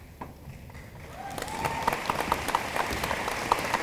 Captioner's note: room applauds